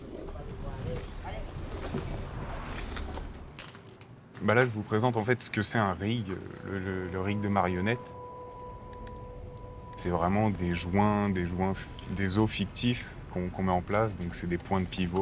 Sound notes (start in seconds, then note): 4.4 in french